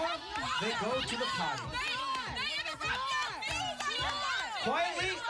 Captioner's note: yelling answers